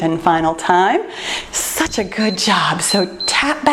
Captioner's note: timer beeps